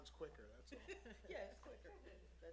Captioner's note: laughs